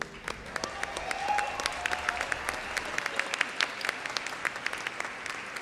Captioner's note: audience cheers and applauds